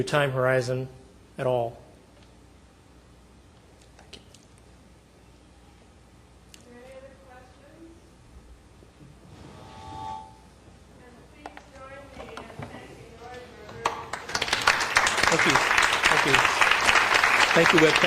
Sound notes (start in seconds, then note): 13.9 applauding